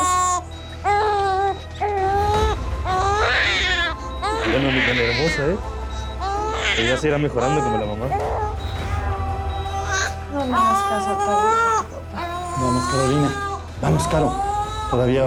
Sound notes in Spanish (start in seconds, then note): 0.3 Llanto de la bebé; 8.7 Llanto de la bebé; 11.9 Llanto de la bebé